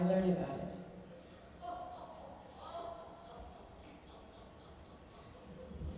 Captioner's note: laughing